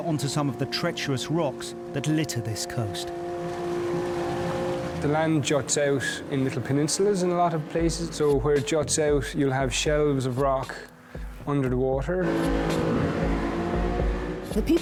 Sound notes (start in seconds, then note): 3.3 boat droning; 12.1 boat droning